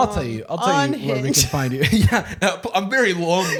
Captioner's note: laughs